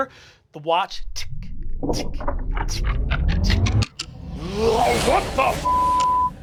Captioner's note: clock whirring into life; beeping